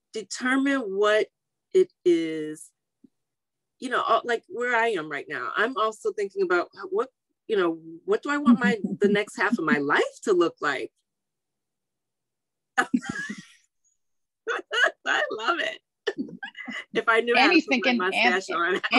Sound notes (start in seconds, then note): 12.8 laughing